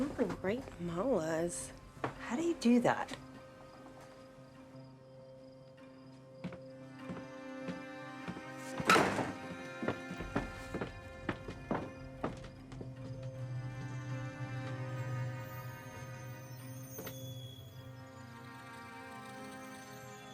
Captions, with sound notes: Ooh, and great malas. - How do you do that? (tense music) (door slamming) (shoes tapping)